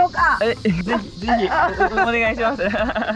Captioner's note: laughs